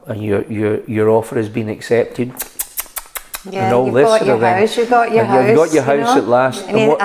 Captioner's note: kissing sounds